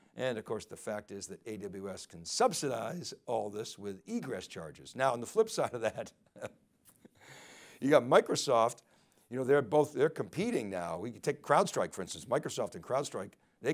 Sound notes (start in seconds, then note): 6.3 chuckles